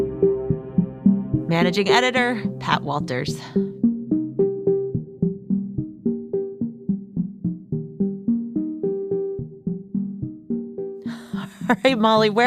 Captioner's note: laughs